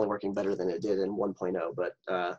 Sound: laughs

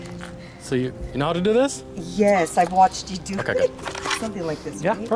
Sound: laughter

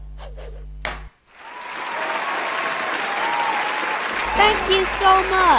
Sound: crowd cheering

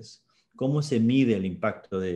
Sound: speaking spanish

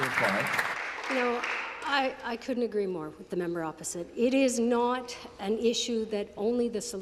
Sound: some Applause

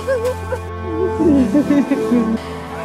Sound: sobbing

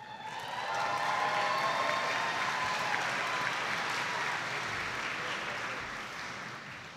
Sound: audience applauding

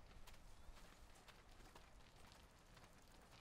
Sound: none

